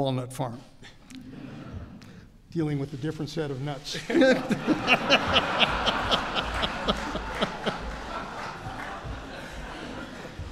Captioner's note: laughter